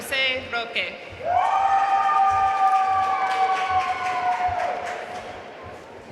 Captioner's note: audience cheering and applauding